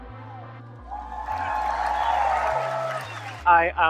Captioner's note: audience cheering